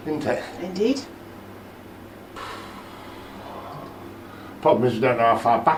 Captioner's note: sighs